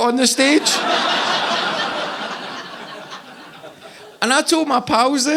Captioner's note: audience laughing